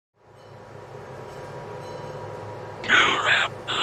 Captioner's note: factory sounds